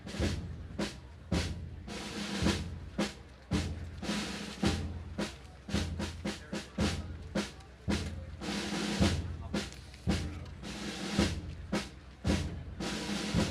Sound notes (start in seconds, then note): 0.1 gentle drumming music; 6.5 audience members chatting indistinctly